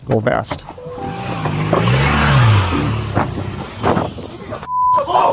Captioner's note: motorcycle engine revving, feet crunching on gravel